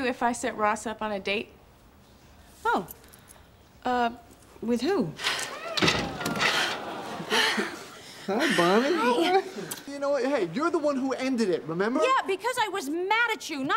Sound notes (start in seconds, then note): 5.5 Bonnie breathing heavy